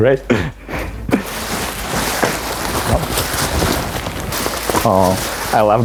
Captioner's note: bubble wrap crinkling